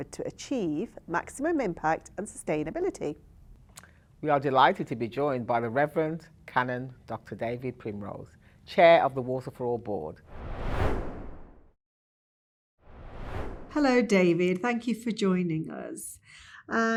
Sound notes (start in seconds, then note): 10.3 screen swooshing